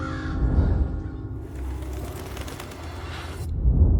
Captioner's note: bird calls; clock chimes; wings flutter